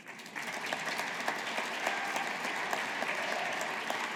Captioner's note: audience applauding